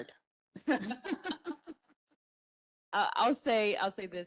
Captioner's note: panelists laugh